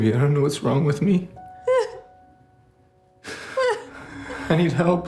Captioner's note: Whitney sobbing